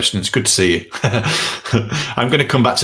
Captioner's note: laughs